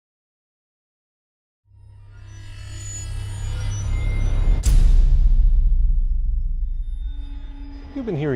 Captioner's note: sound Effects